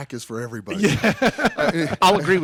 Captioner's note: laughs